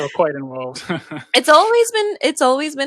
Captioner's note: laughs